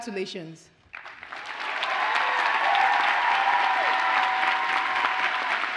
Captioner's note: audience cheers and applauds